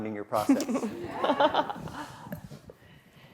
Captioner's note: laughs